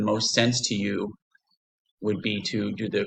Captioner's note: pause